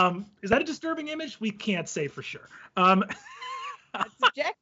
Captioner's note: laughing